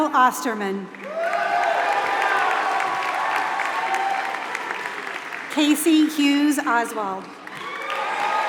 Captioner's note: applause